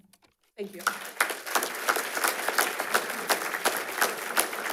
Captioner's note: attendees applauding